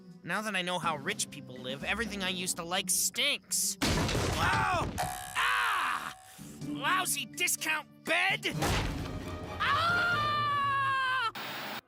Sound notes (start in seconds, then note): 3.8 crashing; 9.6 Scott screaming in pain